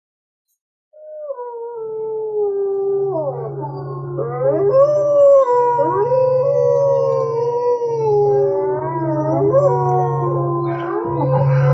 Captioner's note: wolves howl